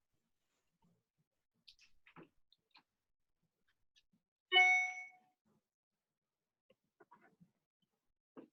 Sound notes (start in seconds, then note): 4.6 beeping tone